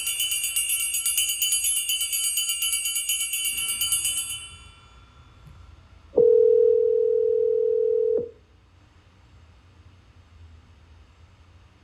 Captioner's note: tinny bell ringing; telephone ringing